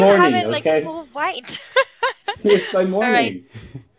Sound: chuckling

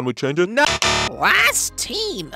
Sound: incorrect Buzzer

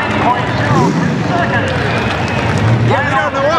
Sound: crowd cheering

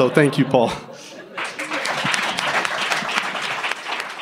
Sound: clapping

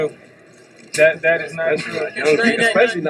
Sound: laughing

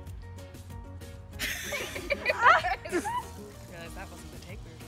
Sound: all laughing

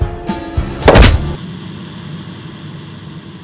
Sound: splat

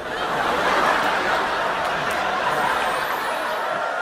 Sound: laughs

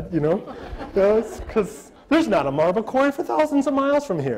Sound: audience laughter

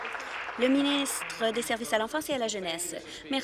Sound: applause

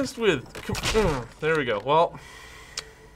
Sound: smack!

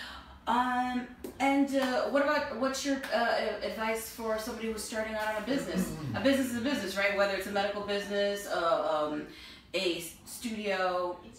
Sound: ahh

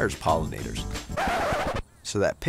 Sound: record scratch

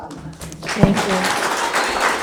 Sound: all applauding

